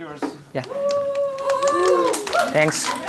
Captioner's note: cheers, applause